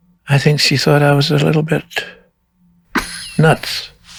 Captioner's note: laughs